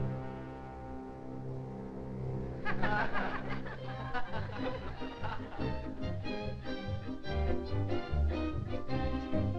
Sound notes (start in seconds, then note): 2.6 audience laughing; 5.0 energetic music